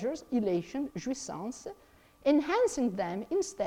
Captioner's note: speaks in foreign language